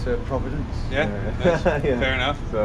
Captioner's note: laughs